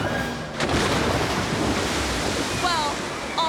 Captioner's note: water sploshing